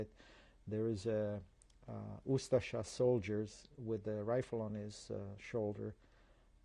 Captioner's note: non-english